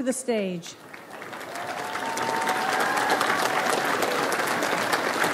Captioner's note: audience applauds